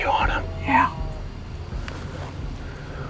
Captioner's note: whispering